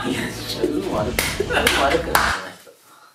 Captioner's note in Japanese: 手を叩く音